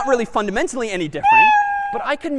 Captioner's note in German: meow